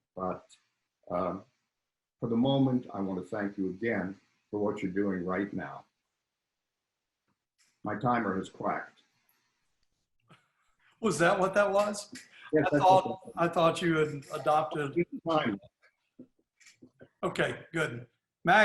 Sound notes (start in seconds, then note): 14.0 laughing